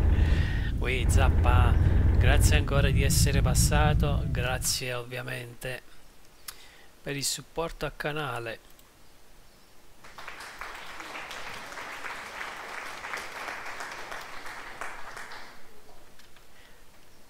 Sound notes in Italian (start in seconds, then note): 10.0 Applauso